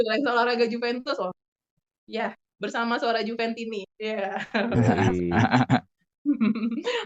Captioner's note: laughs